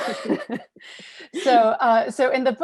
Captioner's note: laughing